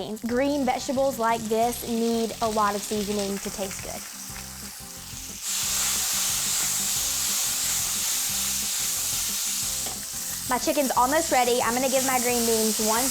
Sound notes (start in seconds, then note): 4.9 sizzling